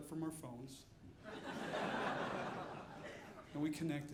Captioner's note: audience laughing